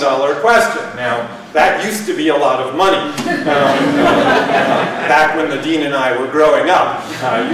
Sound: laughter

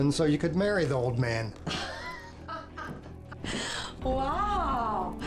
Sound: Katharine laughs

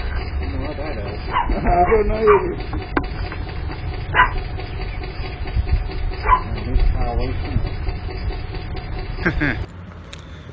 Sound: Ella barks

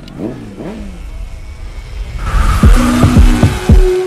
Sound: beeping; motorcycles gurgling

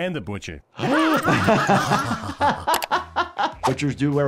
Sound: robot, patient, and doctor laugh

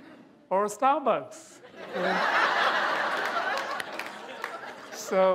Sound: laughter

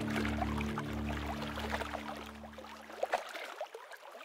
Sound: water splashing

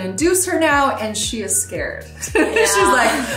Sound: laughs

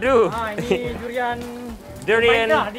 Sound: speaks in foreign language; chef speaks in a foreign language; speaks in foreign language

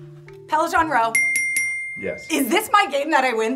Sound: bell chiming

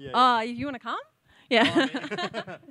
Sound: laughs

